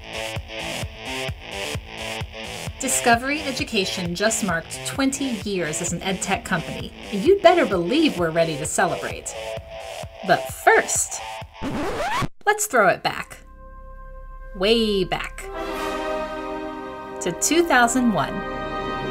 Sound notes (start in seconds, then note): 11.6 record scratch; 15.7 dramatic music